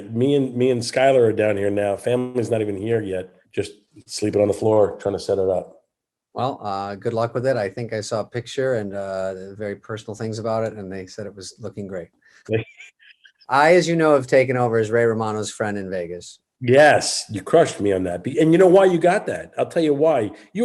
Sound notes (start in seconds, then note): 12.4 Kevin chuckles